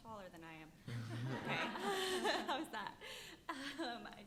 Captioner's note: panelists laughing